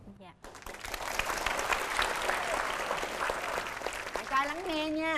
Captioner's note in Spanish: Aplauso